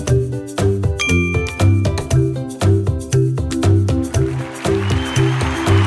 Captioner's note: bell dinging; crowd cheering